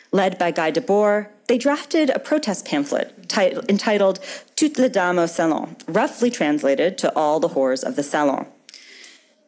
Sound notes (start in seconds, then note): 3.6 speaking foreign language